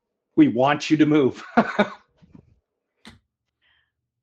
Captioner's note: chuckles